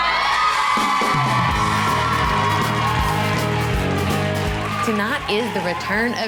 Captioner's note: cheerleaders applaud and cheer